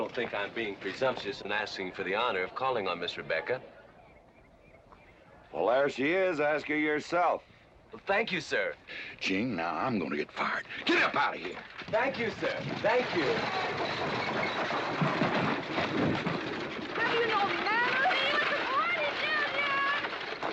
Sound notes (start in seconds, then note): 13.2 carriage rattling away; 15.5 thump